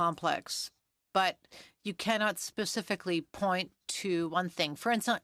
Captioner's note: speaking French